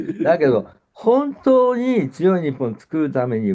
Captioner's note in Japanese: 咳払い